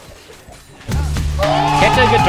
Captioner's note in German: Jubel